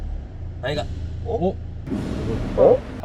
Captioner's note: bang